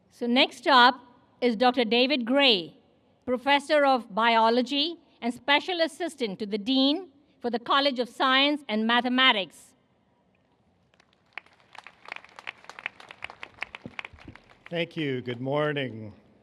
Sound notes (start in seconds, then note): 10.8 applause